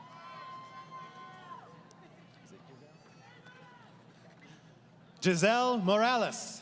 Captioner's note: crowd Cheering